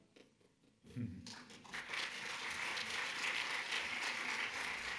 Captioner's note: audience clapping